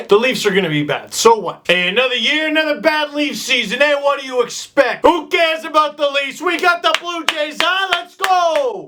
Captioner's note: Italian accent